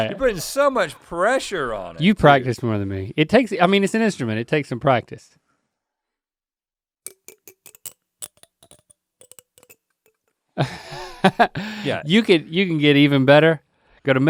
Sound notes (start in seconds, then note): 7.0 comb clicks; 10.7 Link chuckles